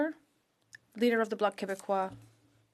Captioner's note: speaking French